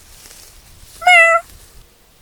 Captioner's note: meow